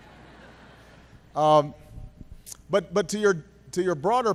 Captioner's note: laughter